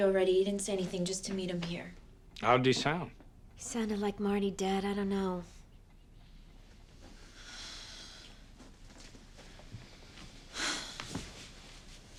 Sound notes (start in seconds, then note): 10.5 sighing deeply